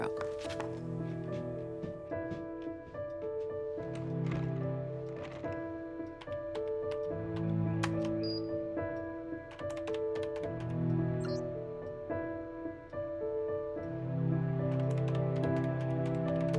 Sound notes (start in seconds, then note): 1.6 suspenseful music; 6.6 keyboard clicking